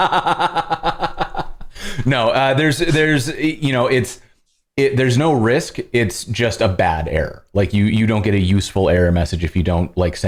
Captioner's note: laughter